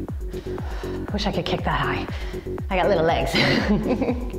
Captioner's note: laughs